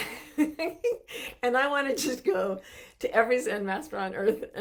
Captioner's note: laughing softly